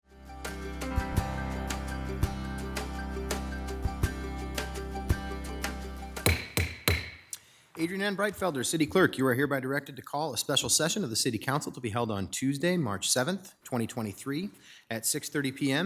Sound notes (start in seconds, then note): 0.0 bright uplifting music; 6.2 gavel thuds